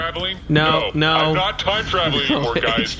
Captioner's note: shouting